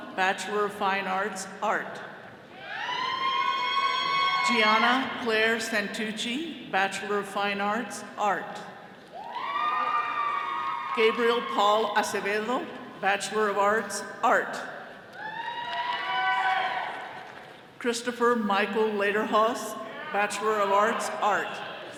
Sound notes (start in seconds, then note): 2.6 all cheering; 9.1 all cheering; 15.1 all cheering